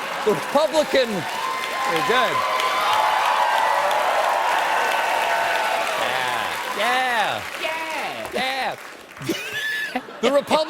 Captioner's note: cheers and applause